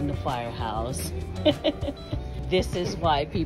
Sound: laughs

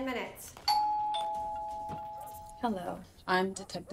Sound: doorbell dinging

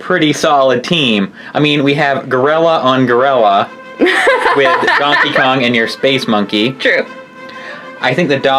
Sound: laughs

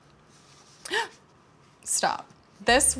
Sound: person gasps

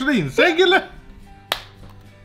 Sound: smack

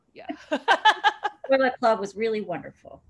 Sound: laughter

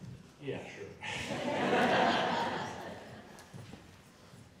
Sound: laughing

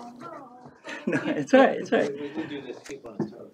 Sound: laughs

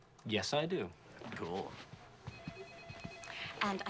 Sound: telephone rings

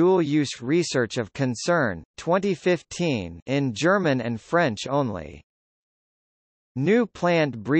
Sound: in German and French only

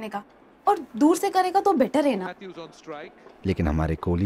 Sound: TV playing

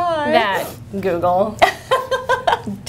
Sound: laughter

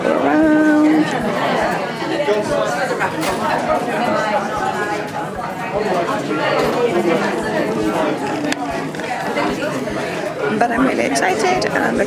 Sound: background noise of people talking

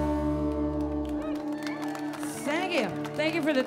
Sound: audience clapping

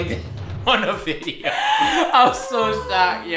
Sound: laughs

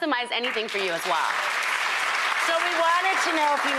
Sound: audience applauds

